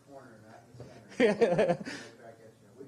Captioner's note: laughing